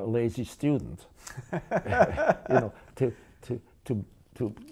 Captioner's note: laughter